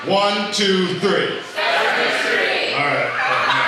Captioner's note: crowd